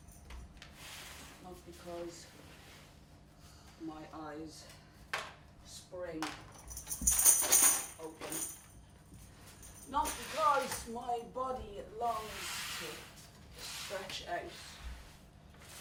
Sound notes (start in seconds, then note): none